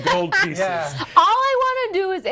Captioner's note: laughing